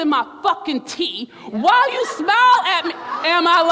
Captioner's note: crowd laughs